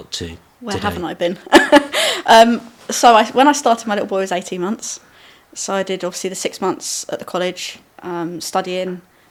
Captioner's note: laughing